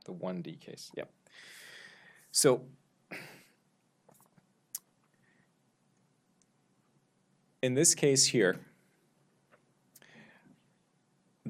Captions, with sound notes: The 1D case, yep. So... (sighs) In this case here,